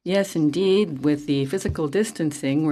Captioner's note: speaking French